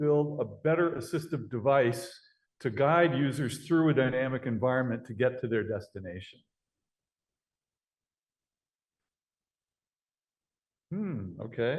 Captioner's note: pause